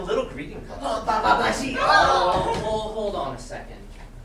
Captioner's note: sailors exclaiming in interest